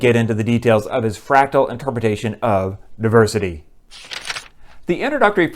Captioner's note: page turning